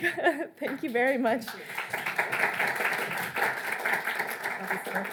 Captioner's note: audience clapping